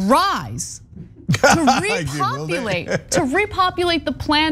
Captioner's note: laugh